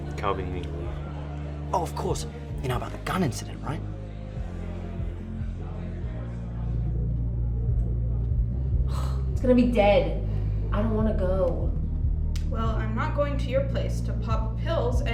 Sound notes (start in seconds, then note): 5.1 crowd chattering; 5.1 soft upbeat music